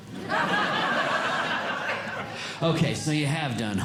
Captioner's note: audience Laughing